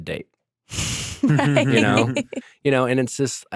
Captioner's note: laughing